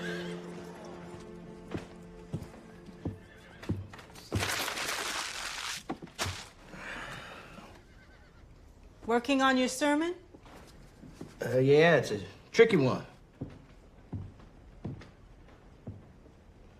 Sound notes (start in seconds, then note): 4.2 crumples paper